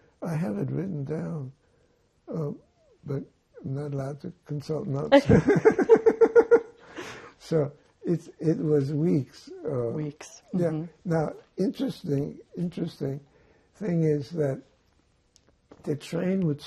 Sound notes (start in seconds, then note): 5.1 laughing